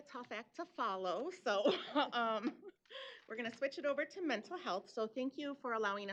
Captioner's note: laughs